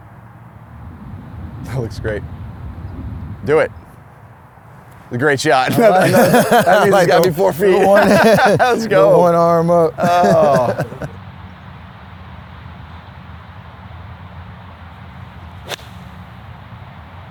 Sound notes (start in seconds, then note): 5.2 laughs; 10.3 laughs